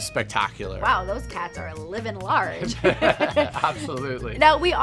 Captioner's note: laughs